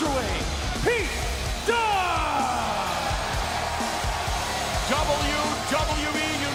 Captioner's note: crowd cheering